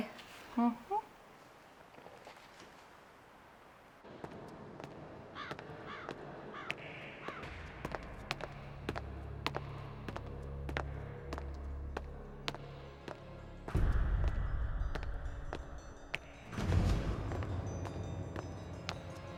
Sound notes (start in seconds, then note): 4.4 footsteps tapping; 8.7 tense, eerie music